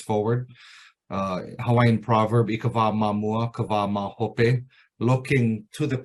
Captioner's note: speaking in Hawaiian